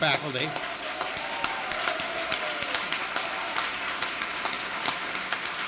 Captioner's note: audience applauds and cheers